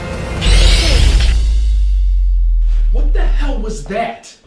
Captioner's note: screeching